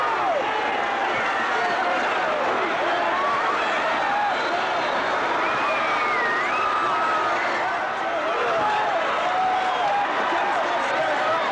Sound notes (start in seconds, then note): 6.3 audience chattering continues